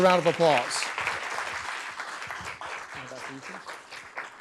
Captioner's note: audience claps